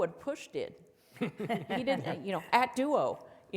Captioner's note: panelists chuckle softly